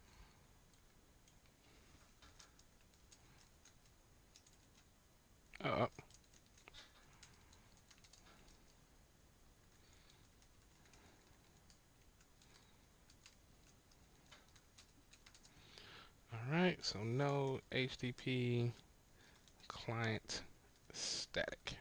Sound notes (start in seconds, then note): 5.1 silence; 10.9 silence